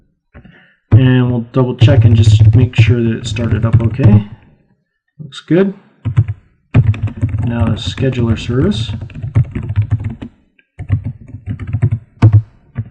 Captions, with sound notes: sure that it started up OK, looks good. Now let's schedule our service ... (typing) That